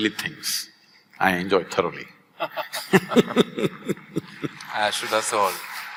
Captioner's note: both laugh; applause